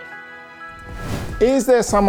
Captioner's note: air whooshing